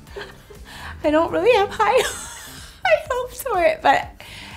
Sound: chuckles

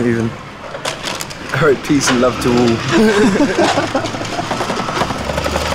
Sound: laughs

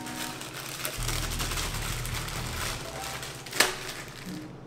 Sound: plastic shuffling

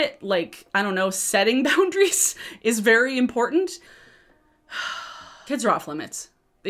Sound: sighing

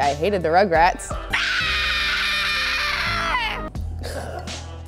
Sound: screams

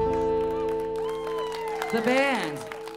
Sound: audience clapping

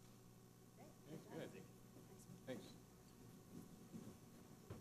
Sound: people talking

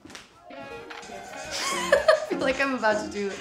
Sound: laughing

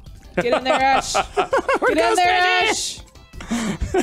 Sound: laughs

